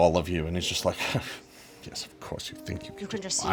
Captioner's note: scoffs